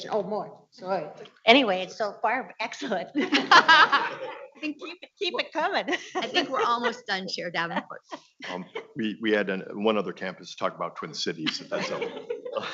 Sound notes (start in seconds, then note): 2.8 all laughing